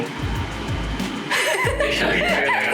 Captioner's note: laughters